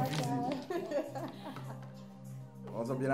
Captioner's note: rires